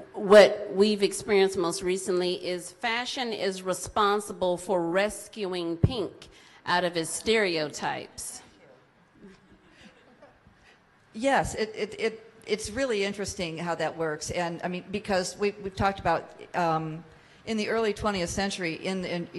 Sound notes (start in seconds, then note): 10.0 audience laughs